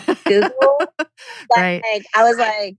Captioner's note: laughs